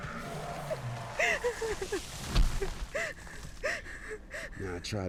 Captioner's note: person crying